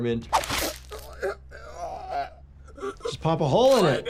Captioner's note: Milhouse gasping